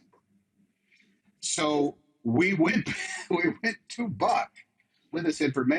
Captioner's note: laughs